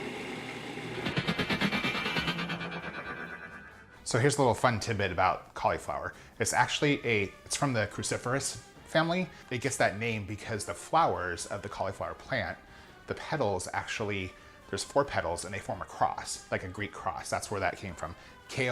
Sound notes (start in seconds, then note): 1.0 futuristic whooshing